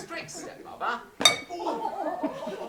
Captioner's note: clang